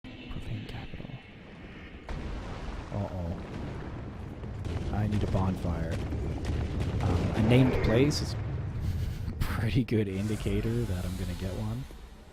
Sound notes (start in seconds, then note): 8.7 chuckling